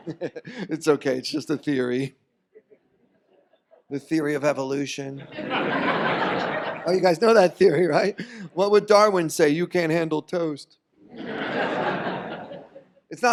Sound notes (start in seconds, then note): 0.0 laughs; 5.2 audience laughs; 11.0 audience laughs